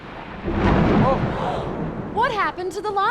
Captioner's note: thunder; gasping